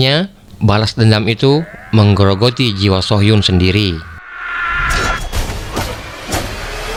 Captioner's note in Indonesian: berteriak